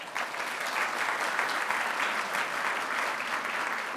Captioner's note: audience applauding